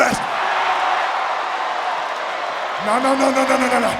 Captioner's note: audience cheering